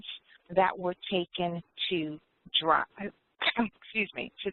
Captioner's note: coughs